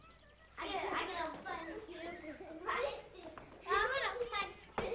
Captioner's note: children chattering